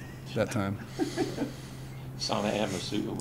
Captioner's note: laughs